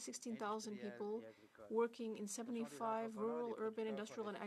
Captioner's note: speaking French